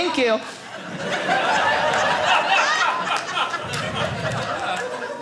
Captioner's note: audience laughing